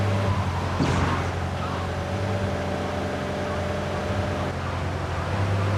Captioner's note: engine roaring